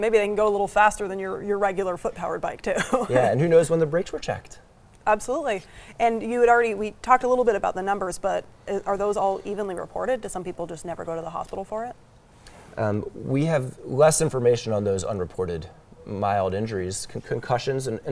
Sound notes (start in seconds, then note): 2.8 laughs